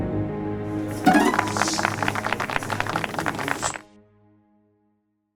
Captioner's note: applause